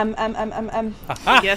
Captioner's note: laughter